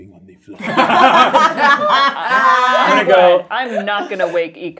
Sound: all laughing

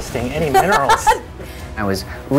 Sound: laughs

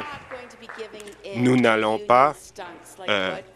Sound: applause

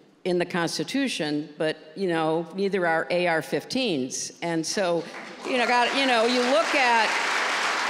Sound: applause

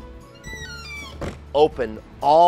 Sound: panel squeaking

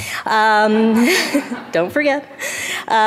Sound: audience laughs

